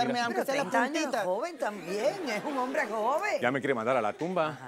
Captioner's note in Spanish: Risas